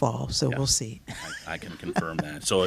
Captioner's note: laughter